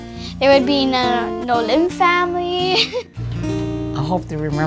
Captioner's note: laughter